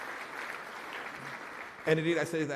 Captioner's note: applause